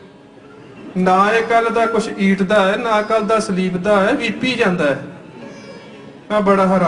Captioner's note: broken English mixed in with Punjabi